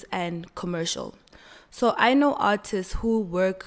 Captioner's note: none